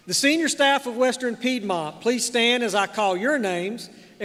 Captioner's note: none